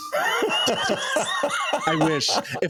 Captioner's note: laughs